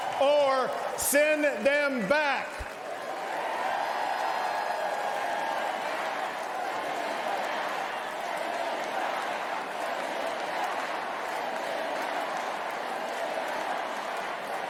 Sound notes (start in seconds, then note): 0.2 cheers and applause